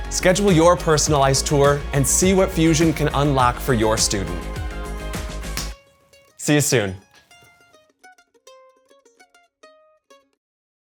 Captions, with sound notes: schedule your personalized tour and see what Fusion can unlock for your student. (hands clap) See you soon. (gentle music)